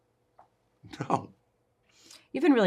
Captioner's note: Christie laughs